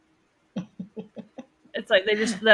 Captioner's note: laughs